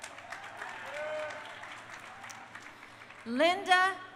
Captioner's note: crowd cheering